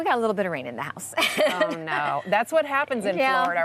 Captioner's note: laughs